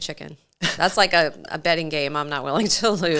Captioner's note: laughs